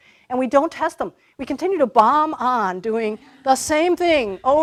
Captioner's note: laughter